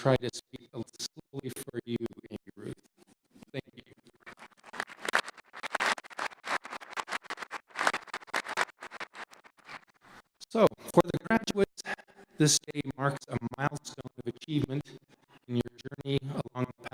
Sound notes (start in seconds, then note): 5.0 audience applauding